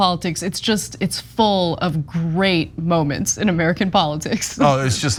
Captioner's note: laugh